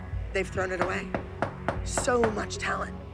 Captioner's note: knock on door